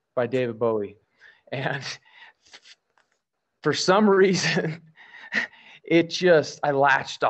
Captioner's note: laughs